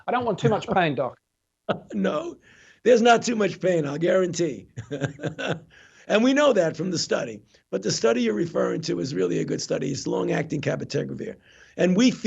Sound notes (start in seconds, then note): 4.6 chuckling